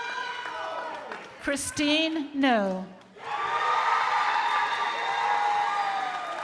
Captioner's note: crowd applauding